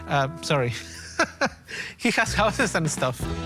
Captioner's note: laughs